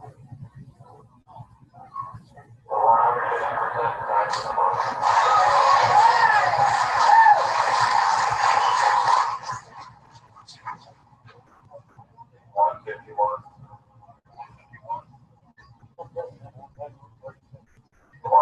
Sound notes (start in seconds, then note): 4.7 applause